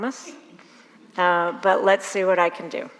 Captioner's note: audience laughs